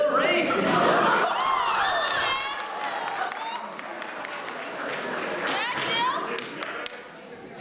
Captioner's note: audience: cheering, clapping, "Yeah, !"